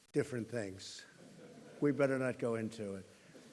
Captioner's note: laughter